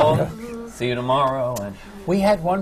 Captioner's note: laughs